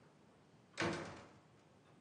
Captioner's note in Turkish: kapı kapanır